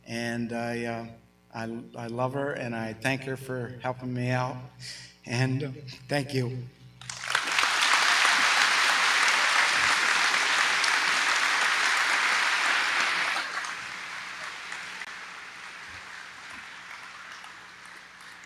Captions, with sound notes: and I love her and I thank her for helping me out and thank you. (audience applauding)